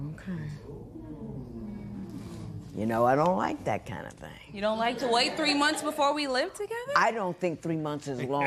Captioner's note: spectators murmuring